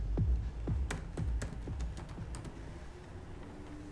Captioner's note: typing on laptop